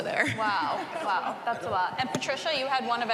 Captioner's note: laughs